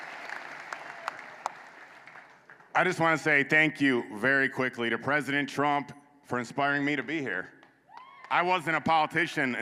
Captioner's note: applause